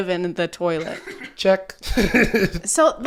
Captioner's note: laughing